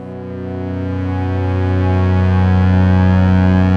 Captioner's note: loud tone